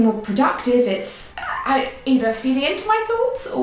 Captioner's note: squeaks